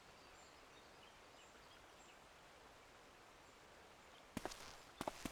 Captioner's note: birds chirping